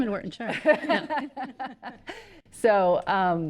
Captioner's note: people laughing